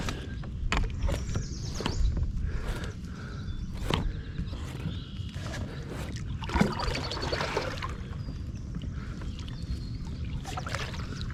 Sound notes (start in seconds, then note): 5.2 paddle splashing water